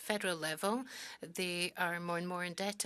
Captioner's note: speaking French